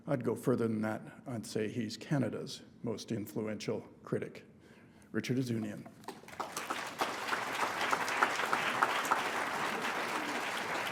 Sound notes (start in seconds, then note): 6.0 applause